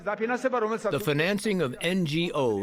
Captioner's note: through translator